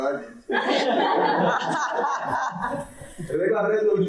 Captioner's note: audience laughing